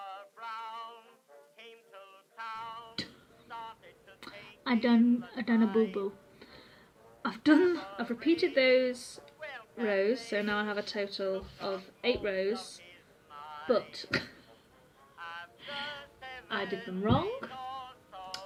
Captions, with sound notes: I done, I done a booboo I've done... I've repeated those rows so now I have a total of 8 rows. But. [Laugh] I did them wrong